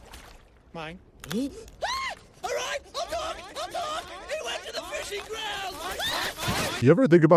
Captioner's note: yells; shrieks